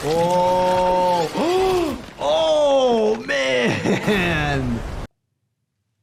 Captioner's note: rope falling